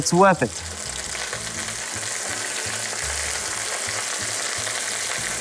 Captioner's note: sizzling sound